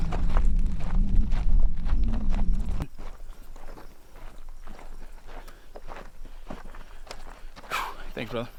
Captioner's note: footsteps on gravel